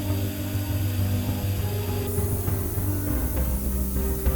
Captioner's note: tool whizzing